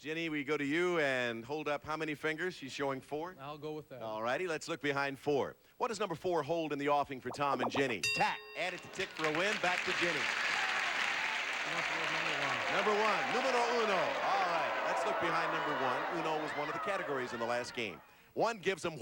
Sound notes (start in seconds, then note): 10.3 audience applauding